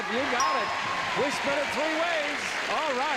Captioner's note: ding